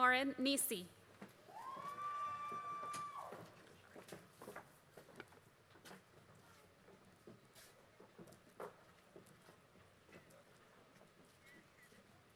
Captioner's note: applause